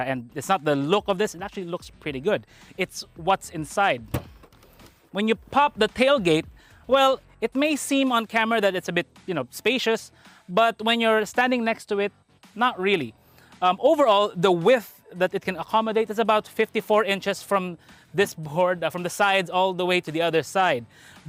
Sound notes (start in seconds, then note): 4.0 door opens